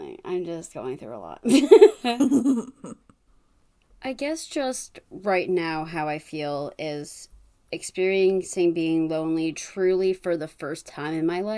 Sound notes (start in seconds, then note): 3.5 laughs